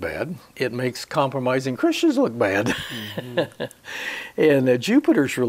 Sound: he laughs

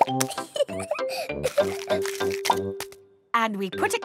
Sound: laughing

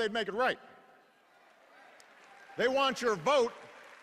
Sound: applause

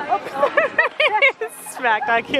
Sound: laughing

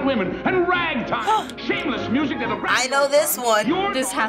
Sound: gasps

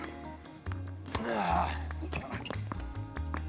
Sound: racket smacking; Marshall grunting; Phillip grunting

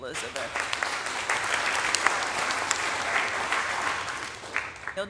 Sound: audience applauding

